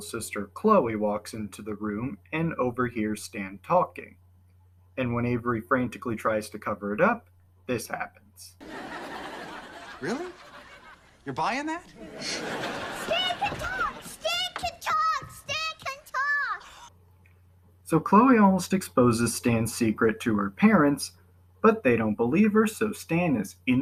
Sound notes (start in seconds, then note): 13.2 excitedly